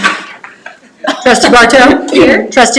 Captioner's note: chuckles